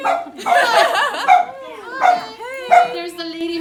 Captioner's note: laughter